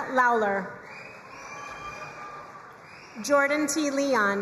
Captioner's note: crowd cheering and applauding